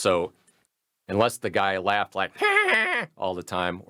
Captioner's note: laughs